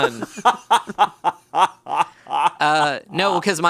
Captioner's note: laughs